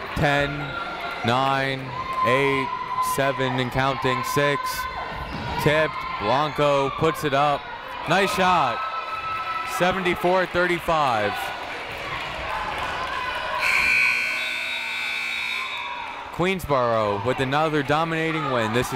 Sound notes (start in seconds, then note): 13.6 final buzzer